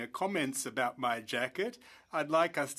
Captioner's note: speaking French